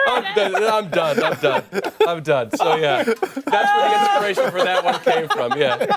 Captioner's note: laughter